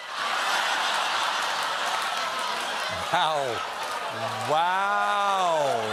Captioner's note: laughter